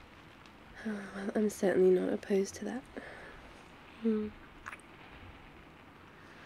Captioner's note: kiss